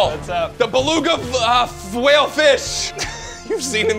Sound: both laughing

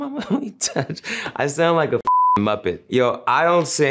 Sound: beep

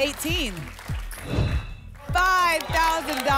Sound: whoosh

